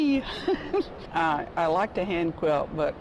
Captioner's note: laughter